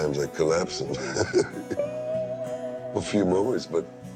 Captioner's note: laughs